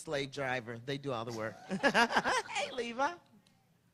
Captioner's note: laughing